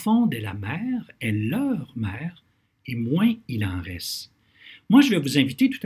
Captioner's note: translating in French